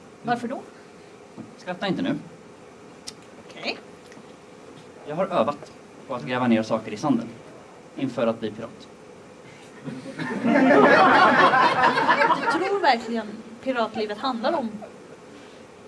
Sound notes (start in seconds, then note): 9.8 laughter